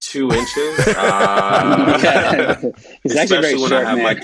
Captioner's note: all laughing